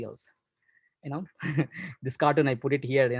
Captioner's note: laughs